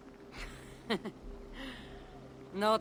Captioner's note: laugh